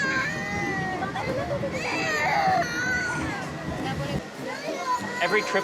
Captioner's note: crying continues